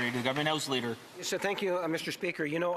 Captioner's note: some applause